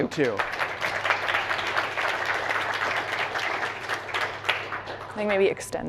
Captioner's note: applause